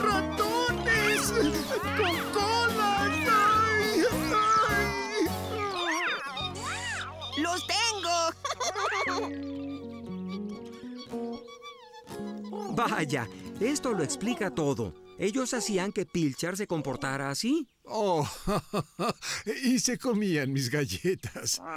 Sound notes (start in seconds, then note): 7.7 laughing; 10.1 squeaking; 17.7 laughing